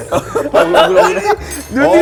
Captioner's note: hahaha